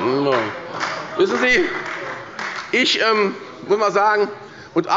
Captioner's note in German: Beifall bei der SPD und bei Abgeordneten der CDU